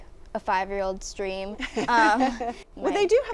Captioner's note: laughter